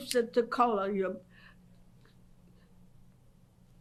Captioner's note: pauses for 6 seconds